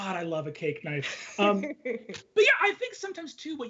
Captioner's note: laughs